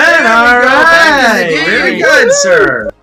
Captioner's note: men cheer